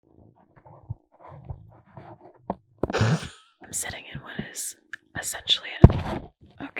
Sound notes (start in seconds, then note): 0.0 rustling; 2.9 snort; 3.6 whispered; 5.9 thud